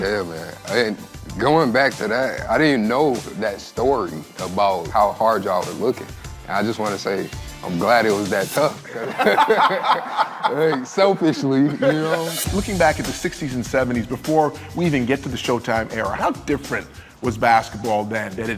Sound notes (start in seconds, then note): 8.9 laughing